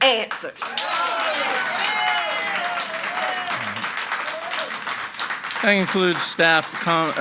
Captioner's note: audience applauding and cheering